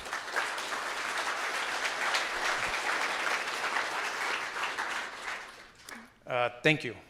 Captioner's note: applause